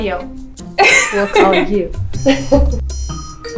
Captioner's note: laughter